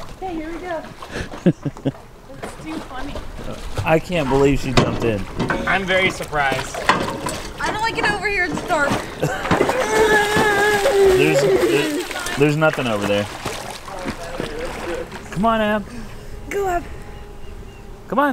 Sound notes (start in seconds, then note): 1.1 laughing; 11.3 splashing